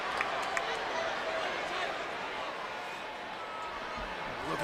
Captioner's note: crowd murmuring